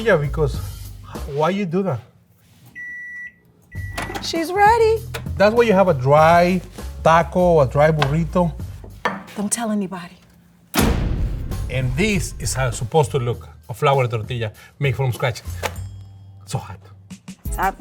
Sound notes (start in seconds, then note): 3.6 microwave beeping; 10.7 door slamming